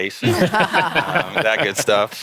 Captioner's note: all laughing